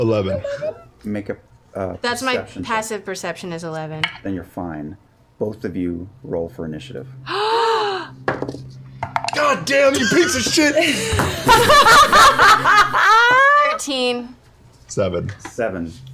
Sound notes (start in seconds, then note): 10.0 laughter